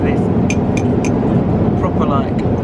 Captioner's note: bowl clanks